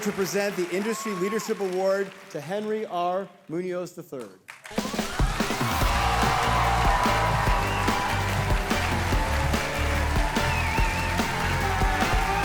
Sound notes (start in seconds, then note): 4.7 audience cheering; 4.8 cheerful music